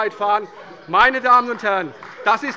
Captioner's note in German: Beifall bei der CDU und dem BÜNDNIS 90/DIE GRÜNEN